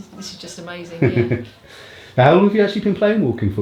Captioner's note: laughter